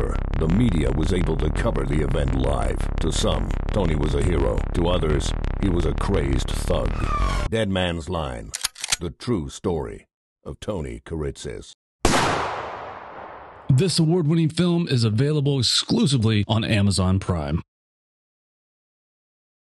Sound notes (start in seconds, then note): 8.5 gun cocks; 12.0 gunshot